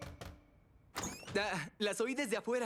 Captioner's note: knock at door; door squeaks open